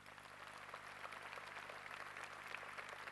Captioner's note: applause